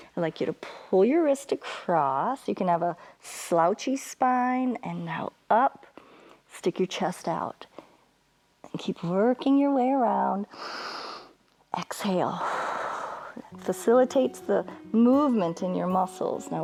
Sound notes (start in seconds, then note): 12.4 exhales; 12.4 inhales